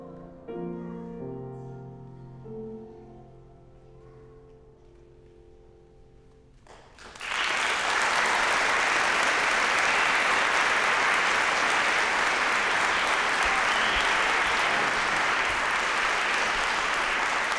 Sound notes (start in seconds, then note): 0.0 gentle piano music; 6.6 applause